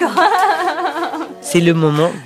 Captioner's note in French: rires